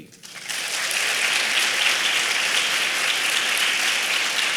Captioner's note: applause